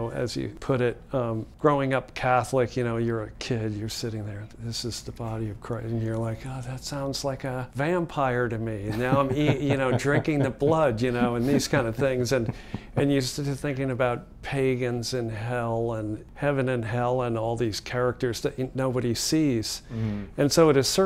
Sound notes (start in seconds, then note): 8.8 laughs